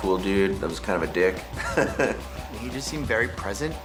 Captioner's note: chuckles